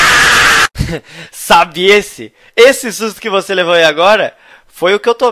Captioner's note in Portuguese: risos